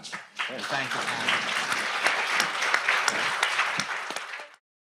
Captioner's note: attendees applauding